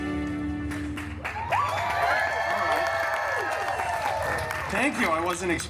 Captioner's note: guests cheering and applauding